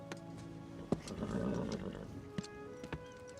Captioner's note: horse nickers